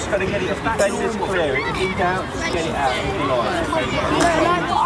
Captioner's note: general chatter